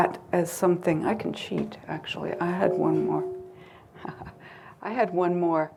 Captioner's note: chuckles